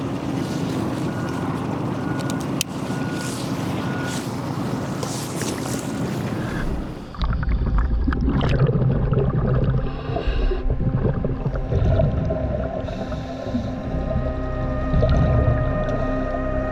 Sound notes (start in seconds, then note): 0.2 electronic feedback; 2.2 clicking; 7.8 water splashes; 12.7 underwater sounds